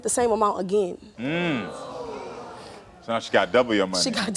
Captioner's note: audience gasping